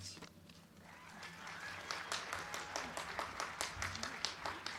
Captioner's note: crowd cheering